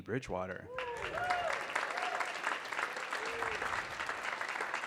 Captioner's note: audience clapping